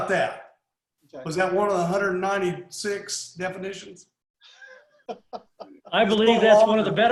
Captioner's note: laughs